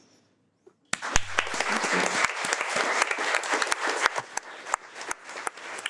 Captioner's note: audience applauding